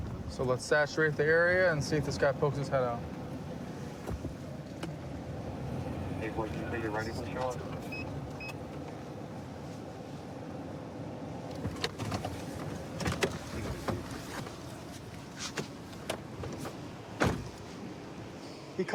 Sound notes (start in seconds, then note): 6.2 indistinct dispatch speech